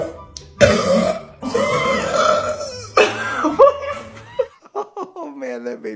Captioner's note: both burping loudly